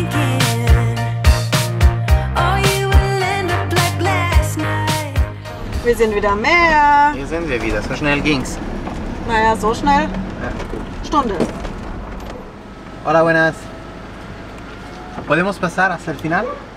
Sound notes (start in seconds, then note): 12.7 in Spanish